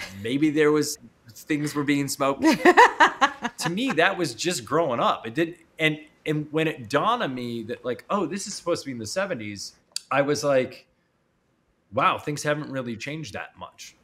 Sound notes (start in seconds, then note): 2.4 laughing